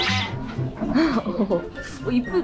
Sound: laughing

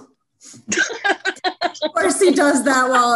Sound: laughs

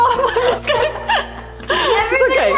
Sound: laughing

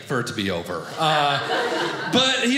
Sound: audience laughing

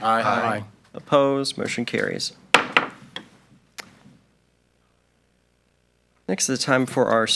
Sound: gavel taps

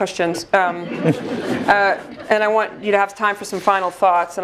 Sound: laugh

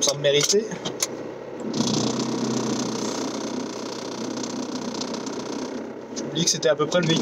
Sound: diesel rattling plastic noises

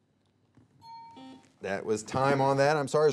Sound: alarm clock ringing

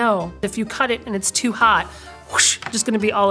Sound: mimicking spillage sound

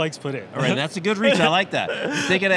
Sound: laughing

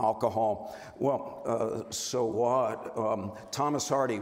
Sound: stammers

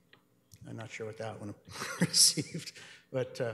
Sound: laughs

